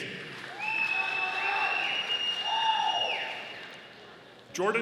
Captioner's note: audience applauding